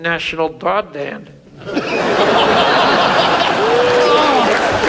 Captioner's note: audience laughs; audience applauds